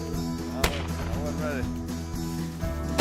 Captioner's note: gun shots